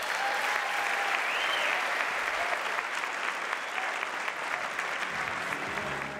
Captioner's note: audience applauding and cheering